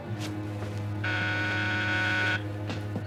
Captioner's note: buzzer